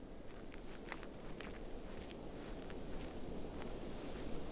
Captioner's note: footsteps crunching